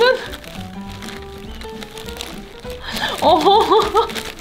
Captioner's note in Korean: 웃음